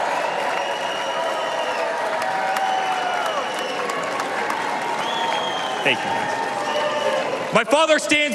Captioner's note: cheers and applause